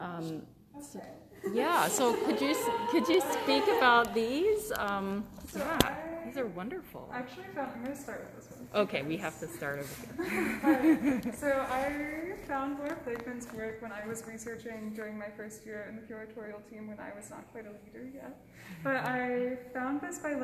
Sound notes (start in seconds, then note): 10.2 laughter